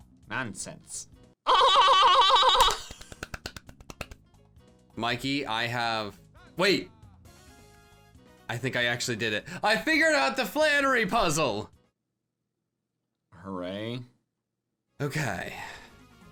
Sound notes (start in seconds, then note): 1.5 laughing; 2.5 clapping